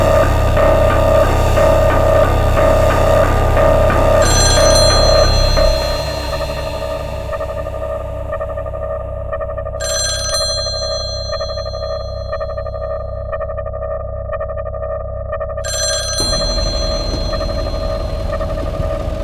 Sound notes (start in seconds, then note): 4.3 phone ringing; 9.8 phone ringing; 15.6 phone ringing